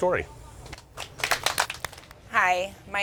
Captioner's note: people applauding